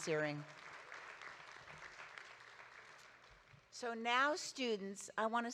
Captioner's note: audience applauding